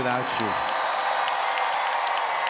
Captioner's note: applause